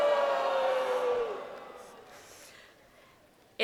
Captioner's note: crowd booing